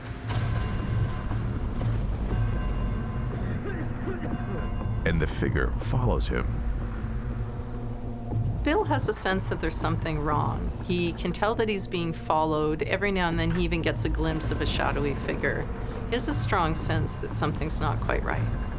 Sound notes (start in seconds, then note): 3.4 coughing loudly